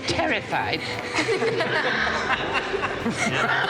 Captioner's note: all laughing